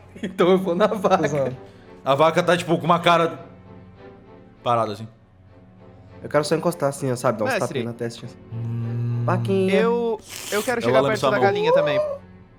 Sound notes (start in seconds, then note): 8.5 mooes; 10.1 slurps